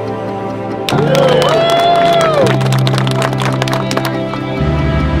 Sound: cheering

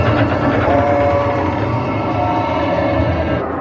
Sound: track rattling

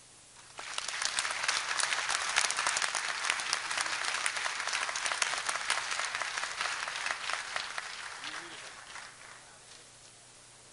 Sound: applause

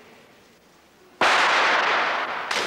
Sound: pistol fired

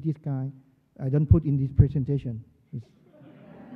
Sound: laughter

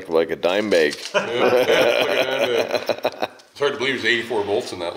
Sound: men laugh

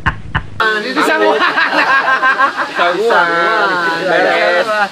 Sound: laughs

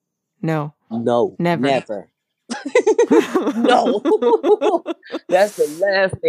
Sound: both laugh

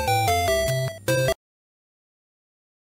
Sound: music stops

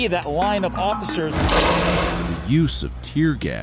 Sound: explosion

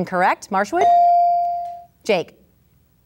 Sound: ding

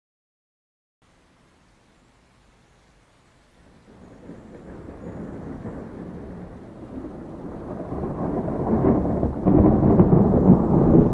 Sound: sound of thunder

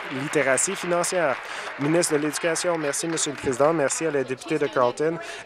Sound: applause

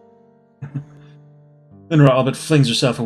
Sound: chuckles

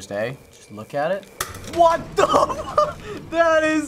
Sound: clicking noise

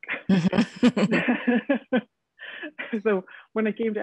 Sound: both laughing

